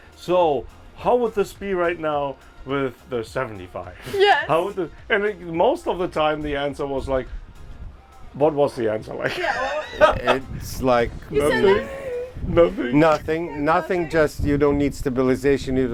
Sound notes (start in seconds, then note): 9.3 laughs